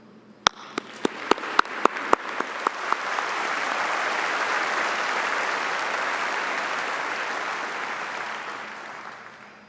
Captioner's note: audience applauding